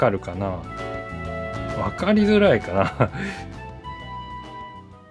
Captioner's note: laughs